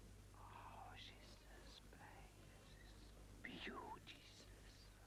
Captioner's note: Rothrar whispering